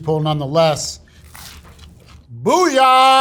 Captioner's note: sandwich rustling